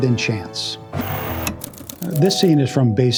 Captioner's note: static